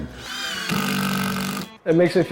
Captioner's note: sound of impact drill